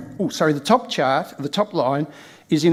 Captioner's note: microphone clatters